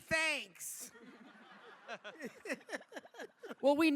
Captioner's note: laughter